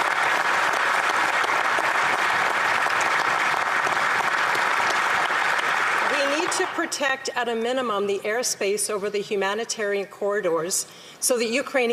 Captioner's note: applause